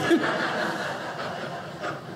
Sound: audience laughing

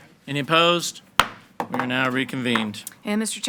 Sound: gavel bangs

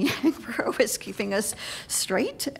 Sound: laughter

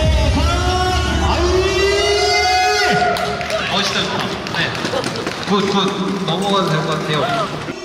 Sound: cheers bursting out

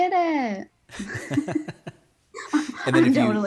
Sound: laughing

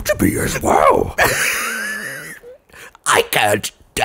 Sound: wheeze

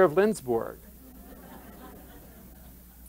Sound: laughter

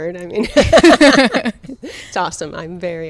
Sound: laughing

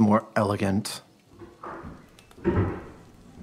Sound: door opening; door shuts; footsteps

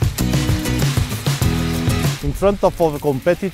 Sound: crackling

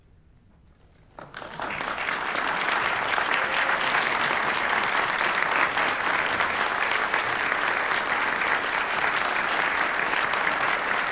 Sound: applause

